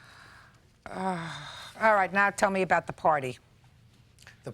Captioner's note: sighs